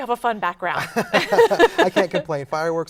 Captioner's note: both laughing